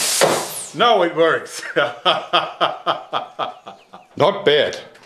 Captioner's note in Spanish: risa masculina